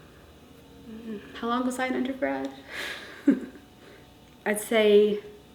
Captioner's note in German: lacht